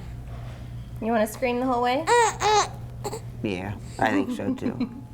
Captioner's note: baby grunts